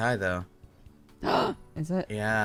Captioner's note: cry; gasps